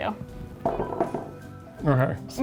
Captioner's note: spoon clinking